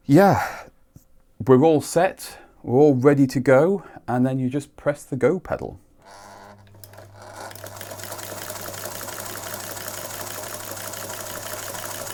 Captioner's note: sewing machine running